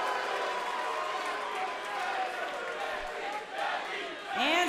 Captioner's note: crowd cheering